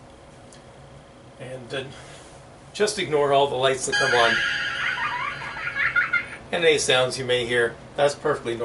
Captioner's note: childish laughter